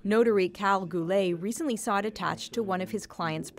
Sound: speaking French

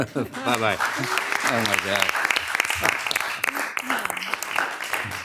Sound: audience applauding

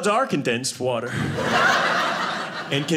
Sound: audience laughing

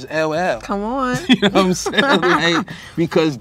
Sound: both laugh

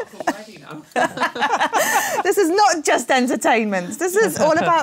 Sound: laughs

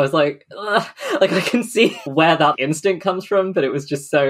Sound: winces

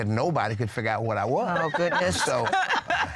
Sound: laughter

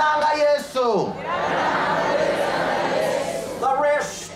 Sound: audience repeats in local language

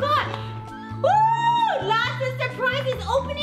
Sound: mom cheering

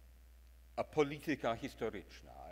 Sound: speaks in foreign language

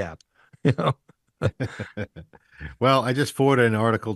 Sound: chuckling

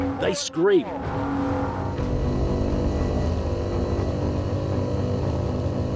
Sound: boat engine roars

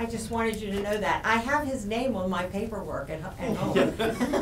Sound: laughs

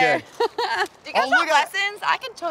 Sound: laughs

